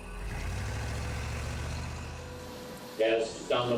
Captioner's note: car engine whirring